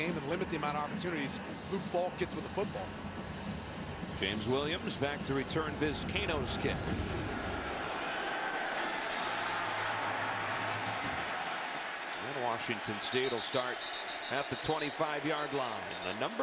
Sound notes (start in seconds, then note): 8.1 crowd cheering